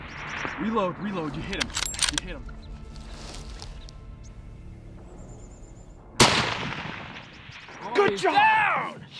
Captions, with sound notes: reload reload you hit him you hit him *gun shot* down!